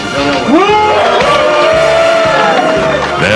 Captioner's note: cheers and applause